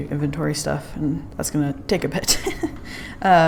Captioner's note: laughs